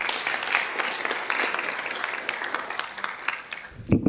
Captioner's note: audience applauding